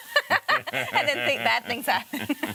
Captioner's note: laughing